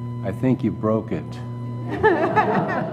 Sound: laughter

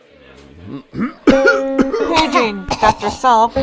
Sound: coughing

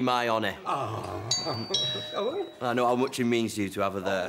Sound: doorbell rings

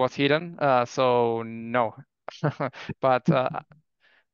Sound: laughs

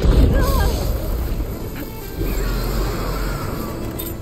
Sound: character groans

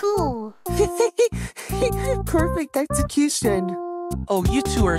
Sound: laughs

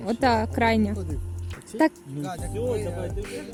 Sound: confused

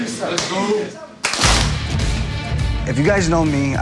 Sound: everyone claps in unison

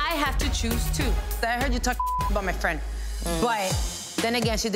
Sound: beep

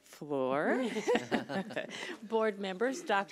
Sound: laughs

